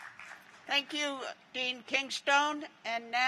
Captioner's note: applause